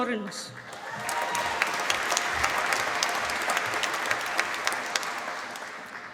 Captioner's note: applause